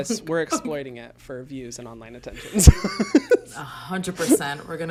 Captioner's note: laughs